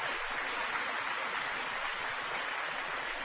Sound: applause

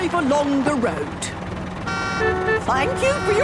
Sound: cars honking

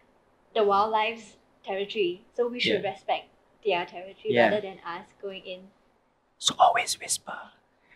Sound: whispering

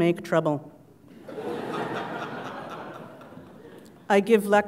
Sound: laugh

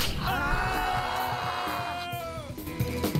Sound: yelling

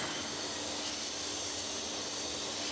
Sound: hiss

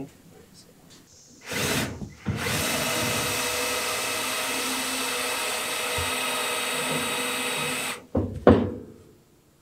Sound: drilling

